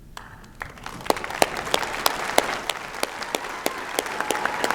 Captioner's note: applause